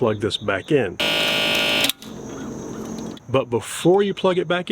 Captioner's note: machine revving